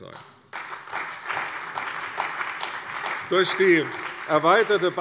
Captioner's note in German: Beifall bei der CDU und dem BÜNDNIS 90/DIE GRÜNEN